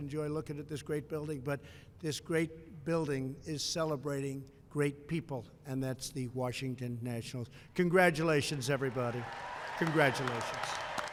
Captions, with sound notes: Enjoy looking at this great building. But this great building is celebrating great people, and that's the Washington Nationals. Congratulations, everybody. (applause) Congratulations.